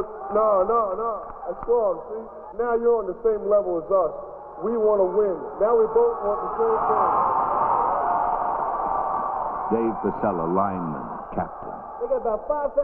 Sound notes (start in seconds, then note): 7.7 cheering